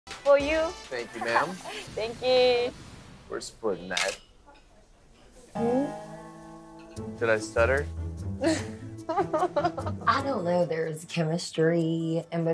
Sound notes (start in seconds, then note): 8.4 chuckles